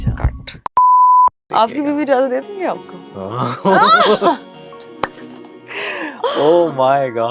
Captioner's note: laughter